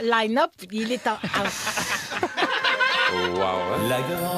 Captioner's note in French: rires